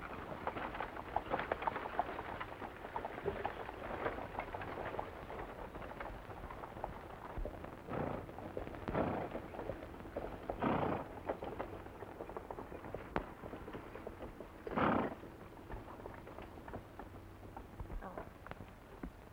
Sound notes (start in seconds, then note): 7.7 horses snorting; 8.7 wagon rattling